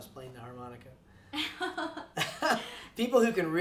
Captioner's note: laughs